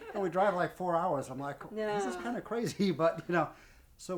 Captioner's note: chuckles